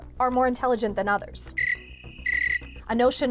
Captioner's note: crickets chirping sound effect playing